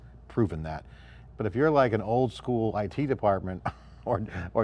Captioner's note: giggles